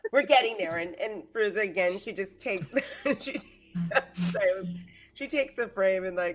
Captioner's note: laughs